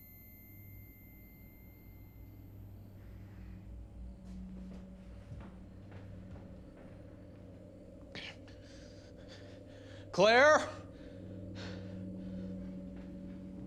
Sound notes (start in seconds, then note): 2.3 crickets chirping; 4.5 tense music; 8.1 Ben gasping; 13.4 crickets chirping; 13.4 tense music